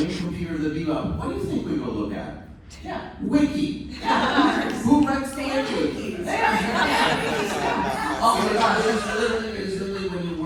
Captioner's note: laughter